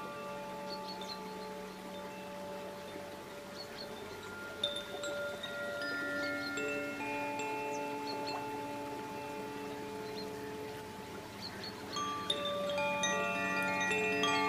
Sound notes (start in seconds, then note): 3.4 bells lightly chiming; 3.4 water babbling